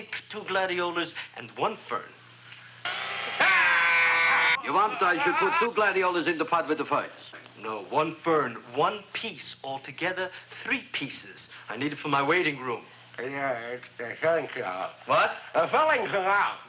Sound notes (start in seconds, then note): 2.9 grinding; 3.2 screaming